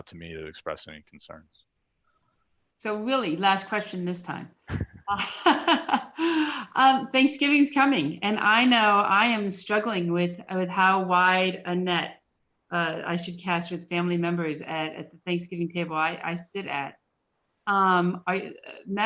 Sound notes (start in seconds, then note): 8.0 laughter